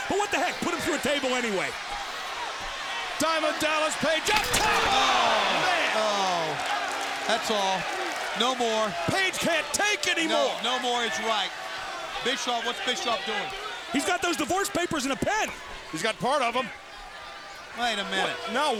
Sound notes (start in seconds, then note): 4.2 table clattering; 8.6 crowd clamoring; 18.2 crowd booing